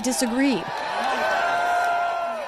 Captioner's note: cheering and applause